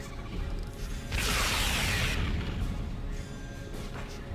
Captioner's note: explosion; tense music